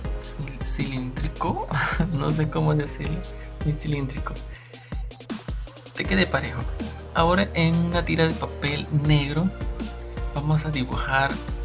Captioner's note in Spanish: Risas